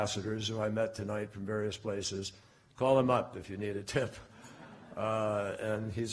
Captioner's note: laughter